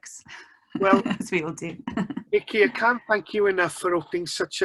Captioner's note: laughs